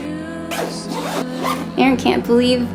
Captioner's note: zipping